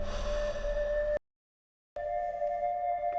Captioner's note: Danny sighs